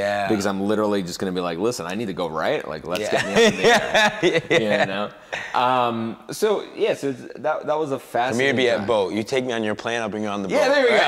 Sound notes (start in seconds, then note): 3.0 laughing